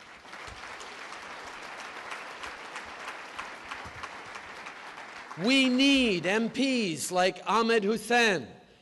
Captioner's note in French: Applaudissements